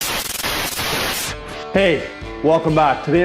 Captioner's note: static sizzling